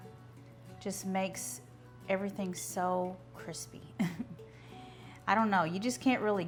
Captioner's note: laughs